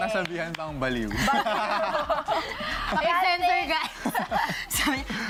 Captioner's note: laughs